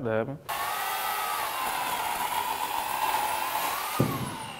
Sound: chainsaw roaring

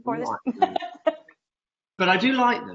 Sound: laughs

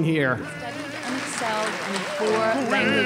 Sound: applause

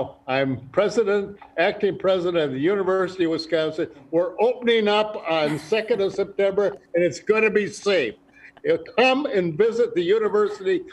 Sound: laughter

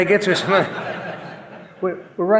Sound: audience laughing

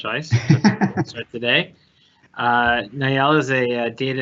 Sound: laughing

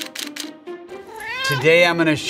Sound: camera shutter clicking; cat meows

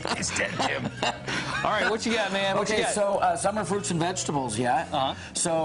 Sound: laughing

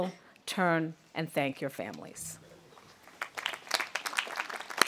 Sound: audience applauding

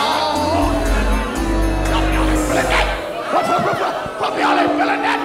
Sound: audience booing

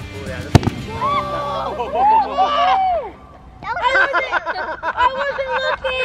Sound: exploding; laughing and cheering

